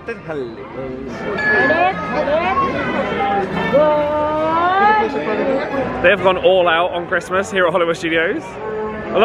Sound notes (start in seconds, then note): 2.5 people chattering